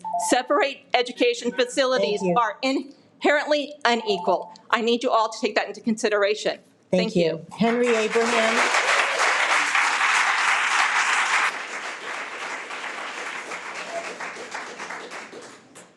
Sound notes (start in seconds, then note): 7.7 audience clapping